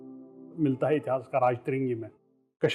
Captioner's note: kashmiri language